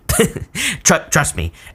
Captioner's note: reader laughs